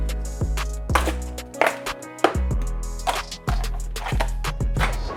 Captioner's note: lid cracks